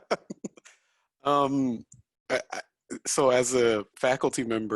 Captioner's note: chuckles